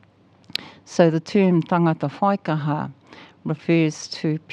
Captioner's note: speaks foreign language